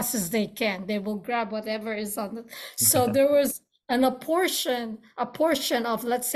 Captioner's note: laughs